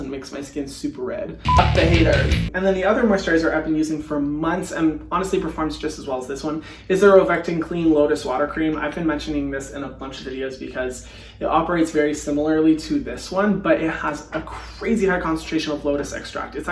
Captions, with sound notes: and makes my skin super red. (beep) the haters. (rock music) And then the other moisturizer I've been using for months, and honestly performs just as well as this one, is the Rovectin Clean Lotus Water Cream. I've been mentioning this in a bunch of videos because it operates very similarly to this one, but it has a crazy high concentration of lotus extract.